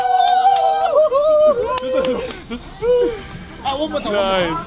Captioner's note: cheering